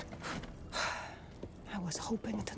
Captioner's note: sigh